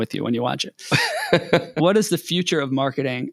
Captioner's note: laughing